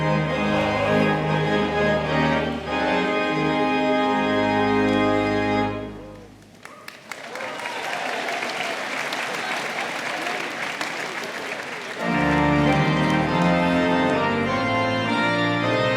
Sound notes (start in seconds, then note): 6.4 audience applauding; 6.6 audience cheering; 11.9 bright pipe organ music